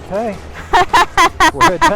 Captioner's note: laughing